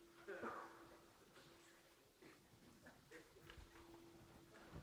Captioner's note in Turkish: Kahkaha diner, sessizlik